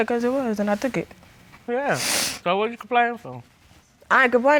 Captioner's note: sniffles